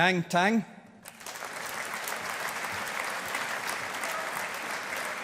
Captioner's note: audience applauding